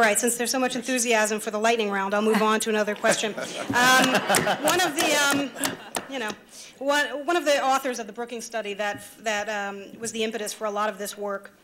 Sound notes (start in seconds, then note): 2.8 laughter